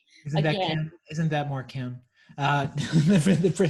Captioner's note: laughs